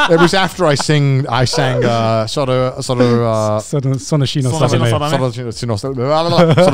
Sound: laughs; speaks foreign language

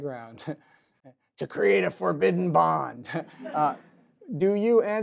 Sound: laughs

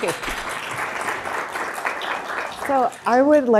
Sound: audience clapping

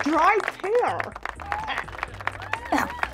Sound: applause

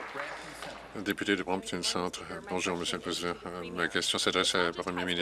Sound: applause

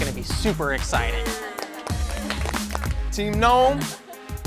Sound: soft applauding

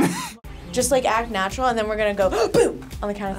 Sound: gasps

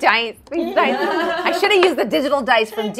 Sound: everybody laughs

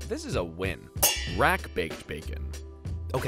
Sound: pans clanging

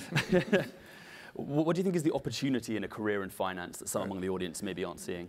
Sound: laugh

